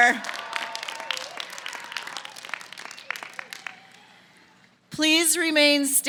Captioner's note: applause